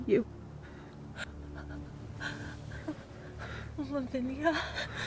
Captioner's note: Julie sobs, ragged breathing... hurt inside